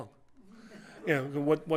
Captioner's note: laughter